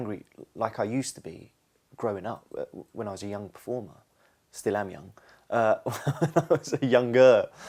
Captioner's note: laughs